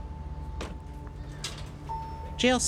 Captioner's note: elevator chimes